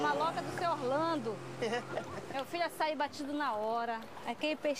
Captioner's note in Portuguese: risada